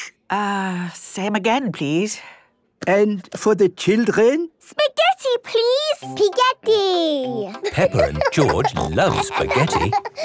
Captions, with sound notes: - Ugh... Same again, please. - And for the children? - Spaghetti, please! - Pig-etti! (laughing) - Peppa and George love spaghetti.